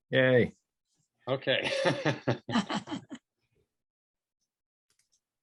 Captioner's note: laughs